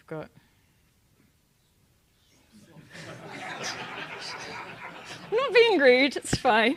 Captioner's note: laugh